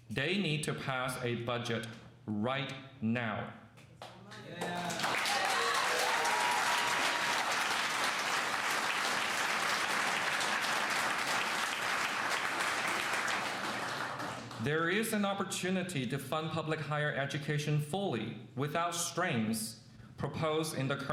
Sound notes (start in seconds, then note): 4.4 cheers and applause